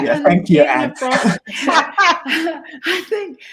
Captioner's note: chucles